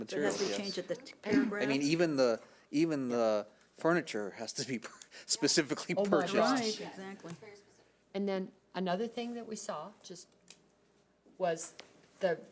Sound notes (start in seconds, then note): 4.0 chuckles